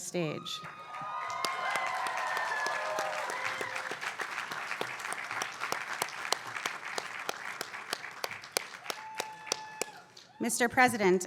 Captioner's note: applause